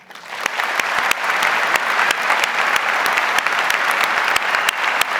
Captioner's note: audience applauds